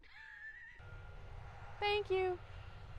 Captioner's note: cars passing